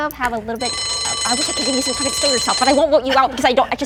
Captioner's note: bell ringing